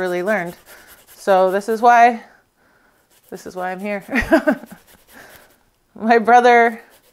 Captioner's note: chuckles